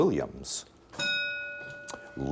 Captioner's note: bell dinging